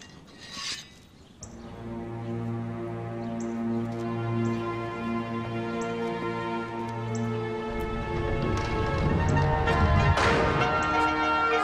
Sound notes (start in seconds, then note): 0.4 sword unsheathed; 2.7 dramatic orchestral music; 8.9 doors closing